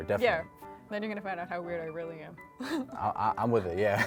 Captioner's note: laughs